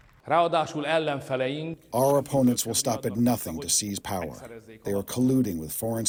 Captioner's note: through translator